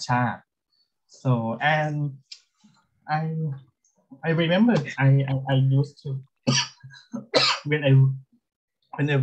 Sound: coughs

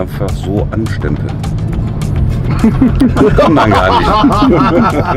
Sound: laughter

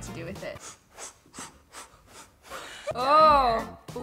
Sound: blows air

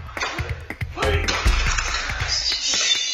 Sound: loud clatters and clanks

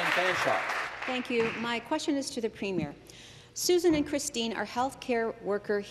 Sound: some Applause

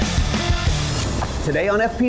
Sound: rock music; whooshing

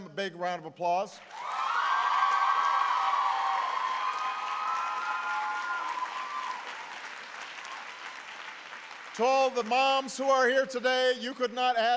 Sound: applause

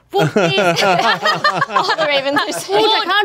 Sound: all laughing

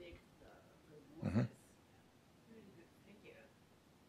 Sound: speaking faintly

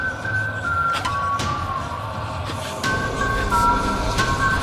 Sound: eerie whistling quickens

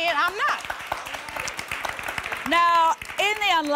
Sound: applause

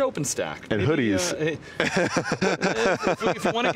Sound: laughs

